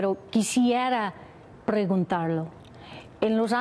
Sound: speaking spanish

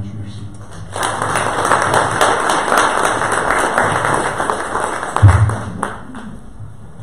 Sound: audience applause

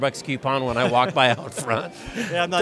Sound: laughs

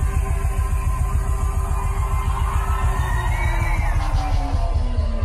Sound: electronic music; audience cheering

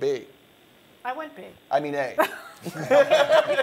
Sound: laughter

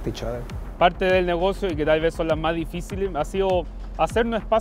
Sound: speaks Spanish

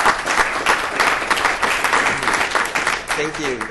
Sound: audience applauds

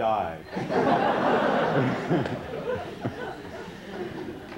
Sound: laughter

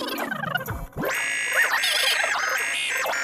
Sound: buzzer

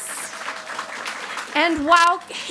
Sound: audience applauds

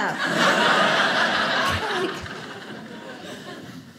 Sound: audience laughing

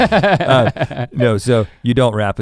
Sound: laughs

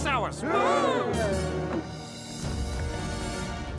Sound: gasping

